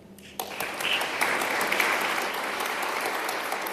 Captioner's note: applause